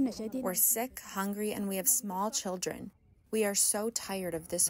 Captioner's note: through translator